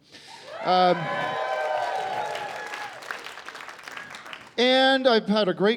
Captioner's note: cheering and applause